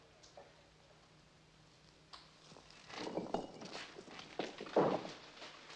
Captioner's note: rocks Clattering